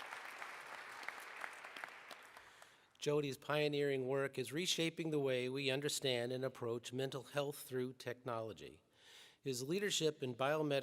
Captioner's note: applause